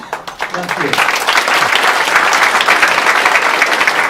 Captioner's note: applause